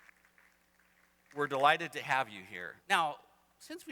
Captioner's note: applause